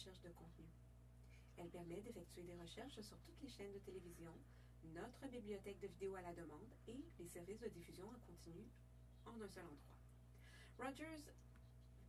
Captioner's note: speaking French